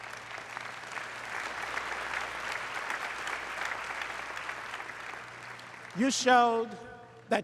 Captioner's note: applause